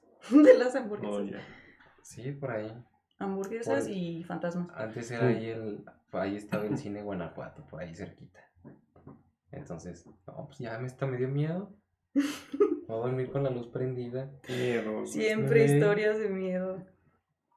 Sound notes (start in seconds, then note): 12.2 laughs